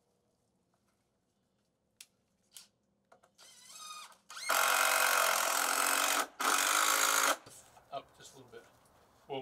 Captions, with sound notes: (drill whirring) (drill grating) - Up, just a little bit.